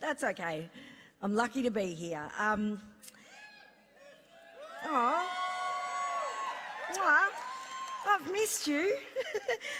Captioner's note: laughs